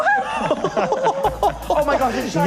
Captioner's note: laughing